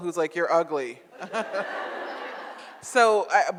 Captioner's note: audience laughs